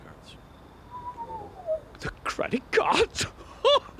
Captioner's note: whistles